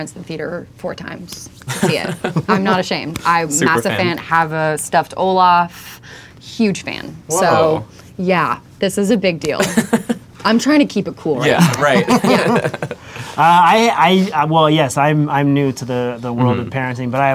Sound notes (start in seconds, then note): 1.6 laughter; 9.6 laughter; 11.5 laughter